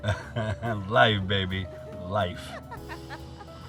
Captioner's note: chuckles